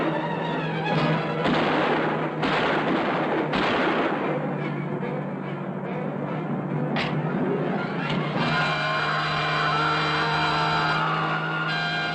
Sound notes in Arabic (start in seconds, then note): 1.0 طلقات نارية; 7.0 طلق ناري; 8.0 صراخ